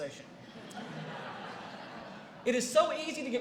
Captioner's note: laughter